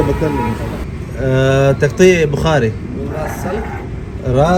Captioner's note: talking in Arabic